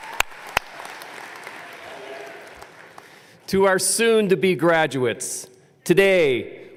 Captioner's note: applause